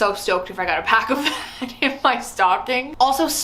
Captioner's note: laughs